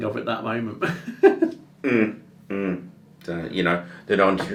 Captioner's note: laughs